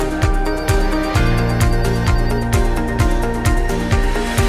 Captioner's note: telephone ringing